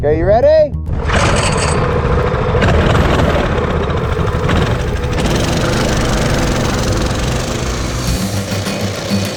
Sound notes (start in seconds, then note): 0.9 motorcycle engine cranking then revving